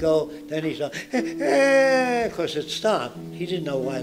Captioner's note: Jacque makes crying sounds